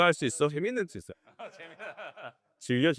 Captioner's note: laughs all around